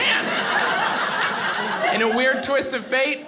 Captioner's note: audience laughing